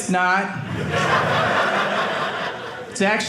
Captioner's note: audience laughing